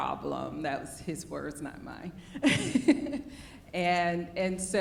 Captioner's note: laughs